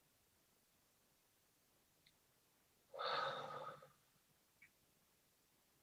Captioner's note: slow exhale